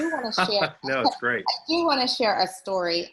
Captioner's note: laughs